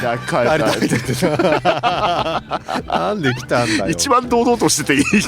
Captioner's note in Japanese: 笑い